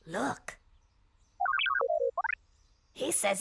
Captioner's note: beeping